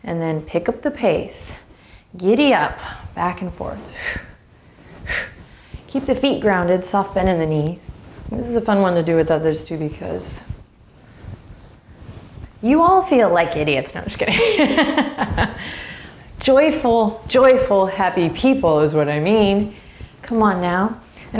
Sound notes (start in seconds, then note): 15.0 laughs